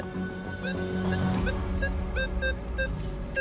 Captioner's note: beeping